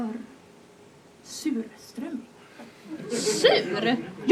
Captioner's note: laughter